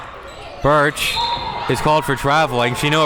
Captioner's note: whistle blows